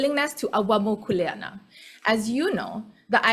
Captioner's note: speaks foreign language